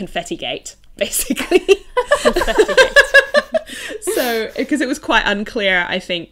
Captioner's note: hosts laugh